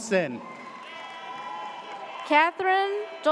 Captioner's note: audience cheers